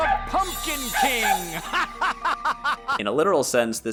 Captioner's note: Average Halloween skeleton laughter